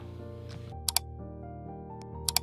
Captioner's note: click